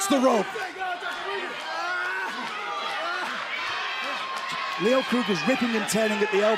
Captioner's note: crowd cheering